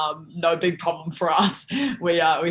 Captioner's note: laughs